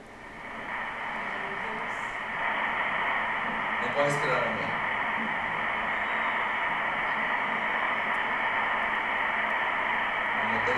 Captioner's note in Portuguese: batimentos cardíacos